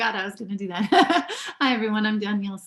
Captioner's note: laugh